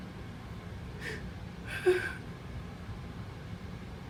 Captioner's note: sobbing